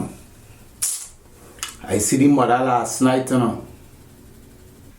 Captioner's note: suck tooth